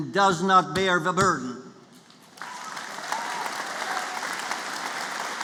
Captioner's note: applause